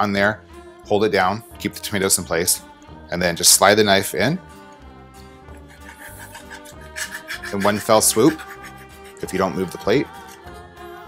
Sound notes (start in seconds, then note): 5.6 knife blade screeching